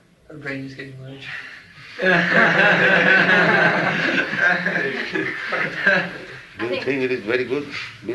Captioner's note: laughter